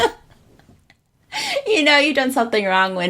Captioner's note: laughs